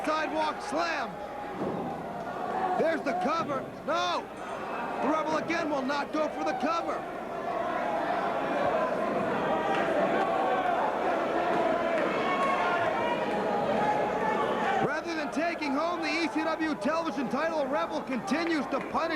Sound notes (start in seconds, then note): 0.0 crowd cheering; 3.2 crowd chattering